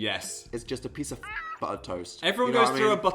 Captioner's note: squawk